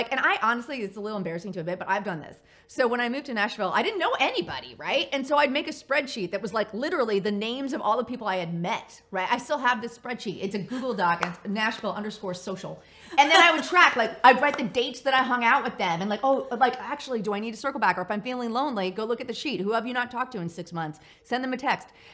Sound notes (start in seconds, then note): 11.2 claps